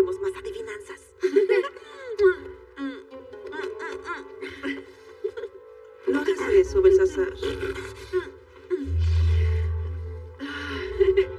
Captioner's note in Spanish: Ríe